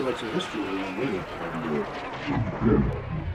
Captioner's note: distortion